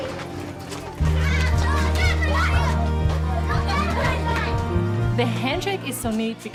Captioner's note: children shouting happily